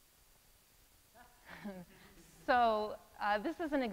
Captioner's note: laughs